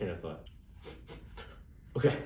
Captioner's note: sniffs marker